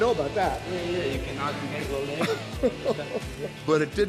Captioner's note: chuckling